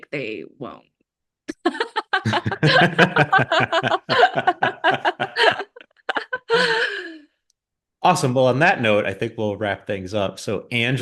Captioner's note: both laugh